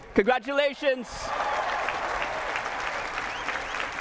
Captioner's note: cheers, applause